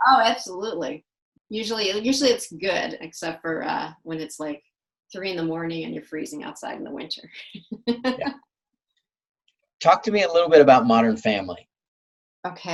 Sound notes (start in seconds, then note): 7.8 laughs